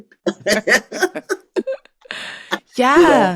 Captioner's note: laughs